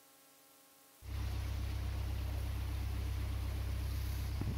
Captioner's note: boat Diesel Engine Sounds